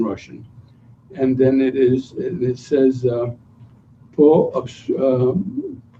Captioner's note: non-english speech